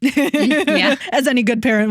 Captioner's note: both Laughing